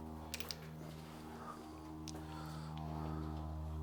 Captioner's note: plane roars